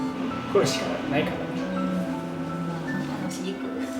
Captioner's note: laughs